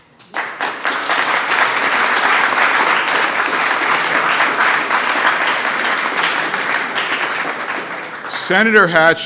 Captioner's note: applause